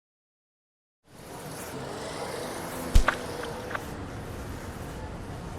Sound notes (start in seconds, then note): 1.0 city noise; 3.0 paint splash